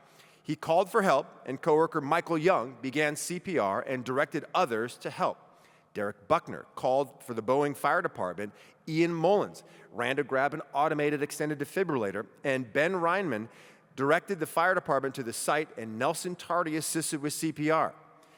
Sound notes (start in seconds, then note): none